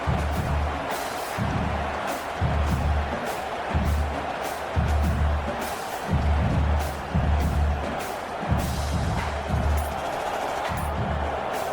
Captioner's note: crowd Noises